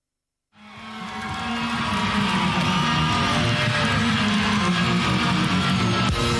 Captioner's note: crowd cheering